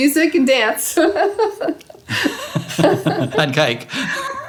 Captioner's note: laughing